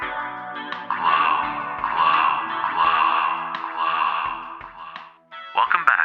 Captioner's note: echoes